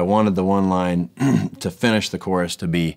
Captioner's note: clearing throat